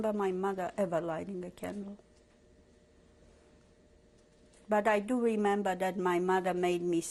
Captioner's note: pauses for 3 seconds